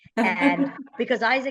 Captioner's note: laughter